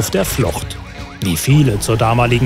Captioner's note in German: Sirene